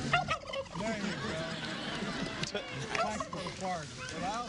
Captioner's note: gobbles